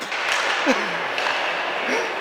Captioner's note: Caufield laughs